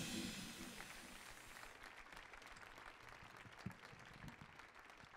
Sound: audience applauding

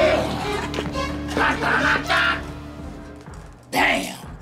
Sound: imitates fanfare

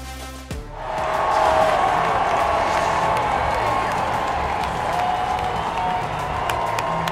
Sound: crowd cheering; clapping

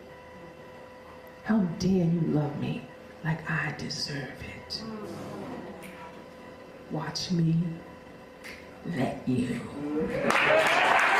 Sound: applause

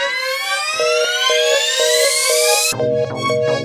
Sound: phone busy tone

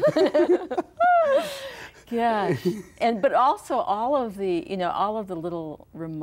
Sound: laughs

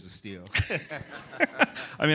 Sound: laughter

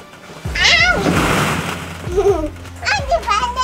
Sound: ball pit rustling

